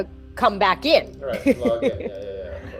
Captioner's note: laughs